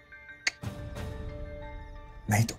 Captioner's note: Clicks tongue